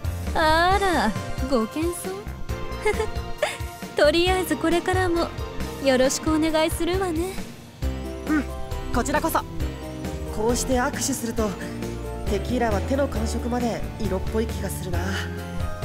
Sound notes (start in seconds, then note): 2.8 giggle